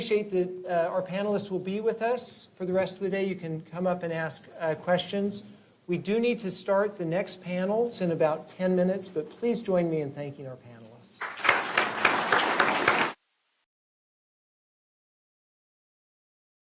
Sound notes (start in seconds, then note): 11.2 applause